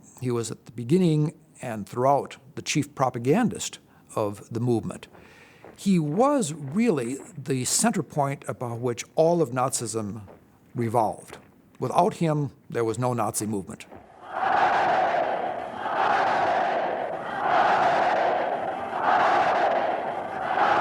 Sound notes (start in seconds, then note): 14.0 crowd chanting "Heil"